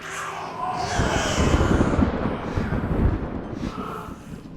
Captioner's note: distorted baby cries & thunder; Sarah hyperventilating